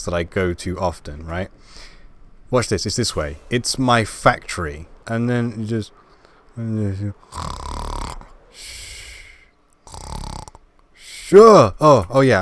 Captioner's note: snoring